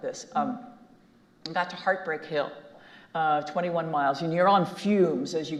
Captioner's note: none